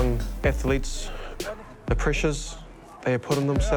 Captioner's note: players exclaim